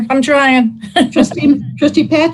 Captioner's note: laugh